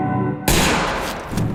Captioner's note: gunshot